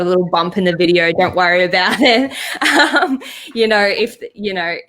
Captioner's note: laughs